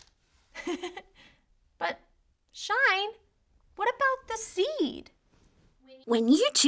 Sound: giggles

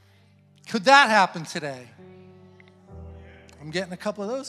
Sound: congregants affirming

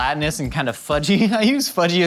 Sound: laughs

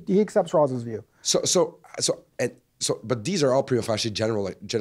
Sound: voiceover

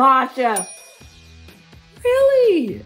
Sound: loud dinging

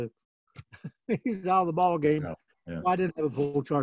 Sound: laughs

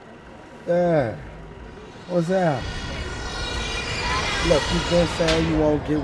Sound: whirring sound

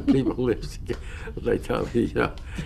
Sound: laughter

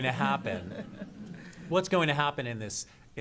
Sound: laughter

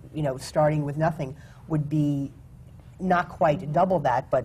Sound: none

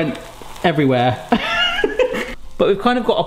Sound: laughing

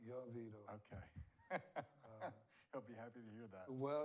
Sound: laughs

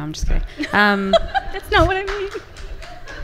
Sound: laughs; audience clapping and laughing

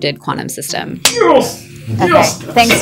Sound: man cheering

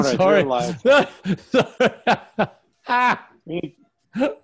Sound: laughs

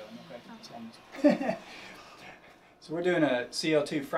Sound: laughs

